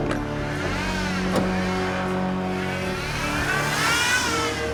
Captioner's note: van engine whirring